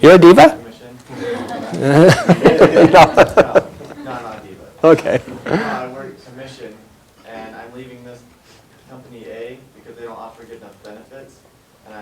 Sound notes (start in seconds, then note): 1.1 chuckles